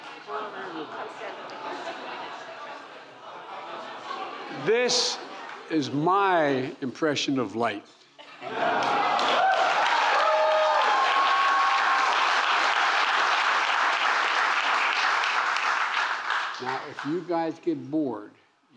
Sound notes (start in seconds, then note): 8.2 laughter and applause